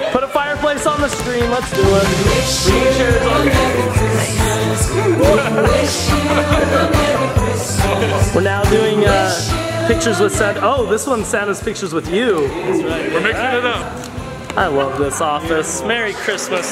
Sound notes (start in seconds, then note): 5.7 laughing